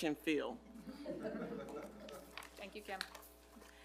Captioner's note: audience laughs